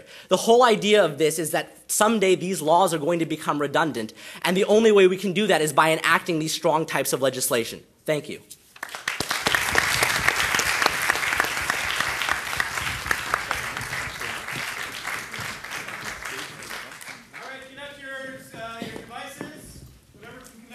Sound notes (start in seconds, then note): 8.8 audience applauding; 17.8 voiceover